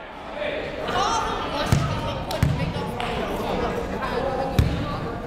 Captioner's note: people shouting in the crowd